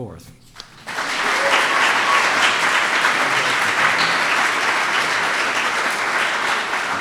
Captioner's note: applause